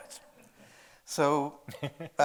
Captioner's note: audience chuckling; chuckling